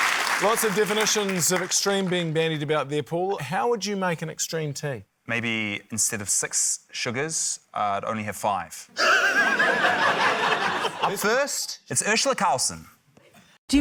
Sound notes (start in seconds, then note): 9.0 laughter